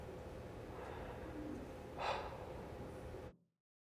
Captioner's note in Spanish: profundo suspiro